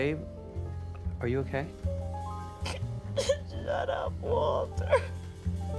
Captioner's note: sobs, sniffles